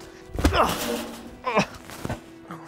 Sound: gets hit with wrench

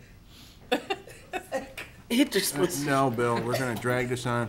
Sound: laughing

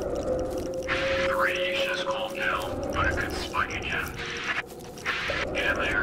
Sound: over Radio

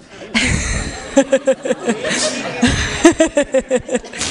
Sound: laughs

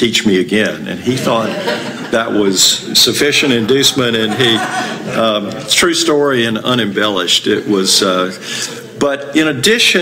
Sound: laughter

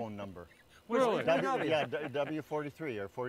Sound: laughing

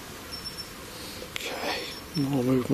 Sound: device beeps

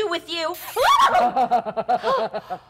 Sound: Zina loudly shrieks; Sharik loudly chuckling

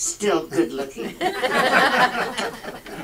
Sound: audience laughs

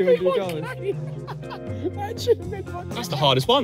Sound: laughing

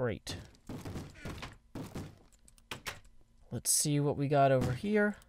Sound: bang bang bang

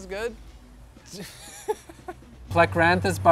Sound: laughter

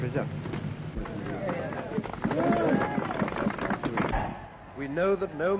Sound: people clapping

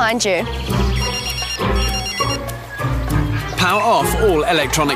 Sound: phone beeps

